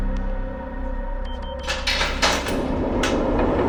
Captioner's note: beeping